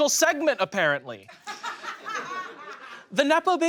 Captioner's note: audience laughs